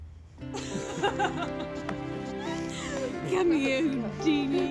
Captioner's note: all laughing